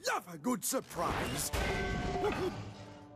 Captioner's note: clang!